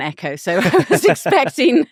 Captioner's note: laughing